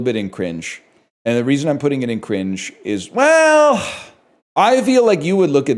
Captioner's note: sighs